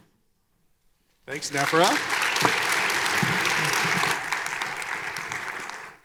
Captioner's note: audience applauding